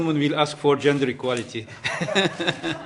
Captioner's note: laughter